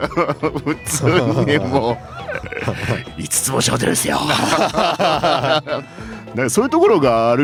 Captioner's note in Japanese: 笑い